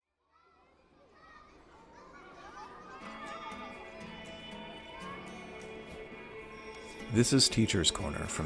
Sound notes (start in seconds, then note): 0.4 children chattering cheerfully; 3.4 melodious music